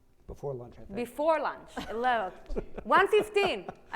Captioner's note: laughs